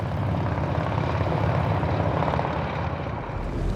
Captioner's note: rumbling motorcycles